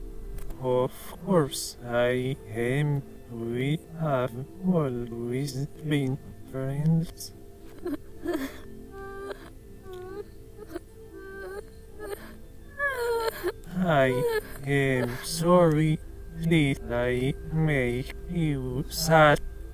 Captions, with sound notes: Of course I am! We have always been friends. *sobbing sounds* I’m sorry. Did I make you sad?